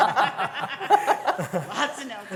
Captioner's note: laughter